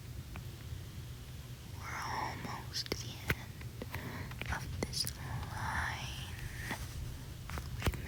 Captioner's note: none